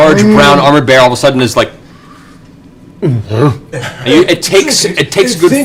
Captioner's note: confused bear noise